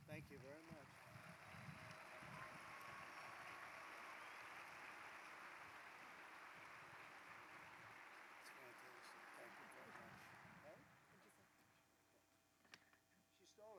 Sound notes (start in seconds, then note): 2.6 applause